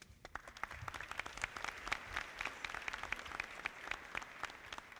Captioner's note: audience clapping